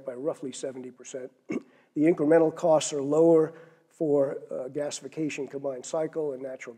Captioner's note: cough